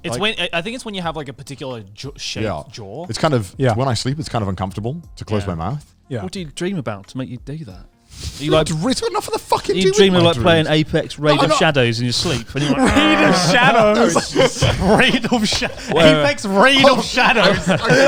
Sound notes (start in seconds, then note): 12.0 groaning